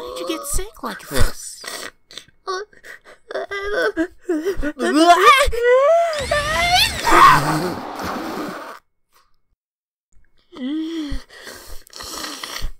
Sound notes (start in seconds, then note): 6.2 sneeze building; 6.5 sneezes